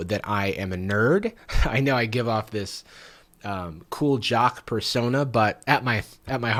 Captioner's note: laughs